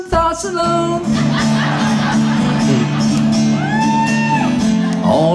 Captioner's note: audience laughs